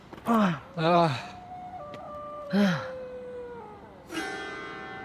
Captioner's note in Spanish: aullidos